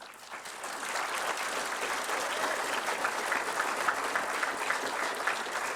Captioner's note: applause